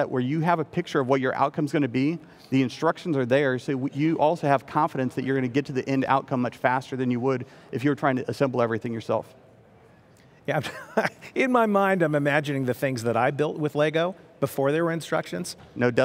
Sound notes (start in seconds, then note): 10.6 laughing